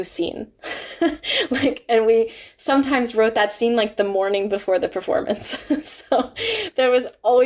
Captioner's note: laughs